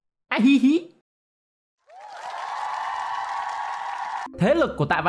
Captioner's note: clap